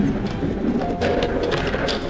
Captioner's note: crash